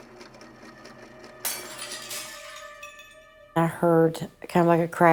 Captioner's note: ceramic shattering